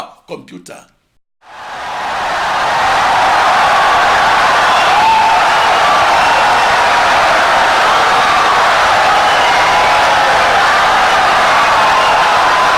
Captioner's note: wild applause and cheering for 17 seconds